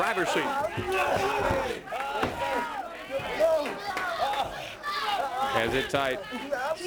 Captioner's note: crowd chatter